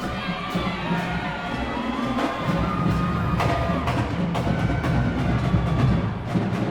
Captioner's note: cheering continues